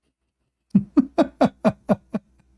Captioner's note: Ketawa